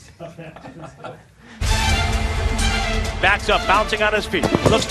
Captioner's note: laughter